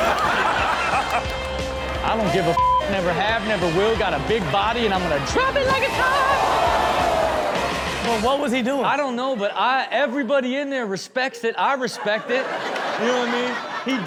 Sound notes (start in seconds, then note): 0.0 Steelo and audience laughing; 6.7 pupils cheering; 11.8 audience laughing